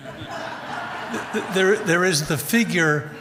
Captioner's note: audience laughs